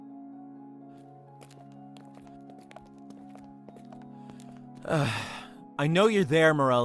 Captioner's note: sighs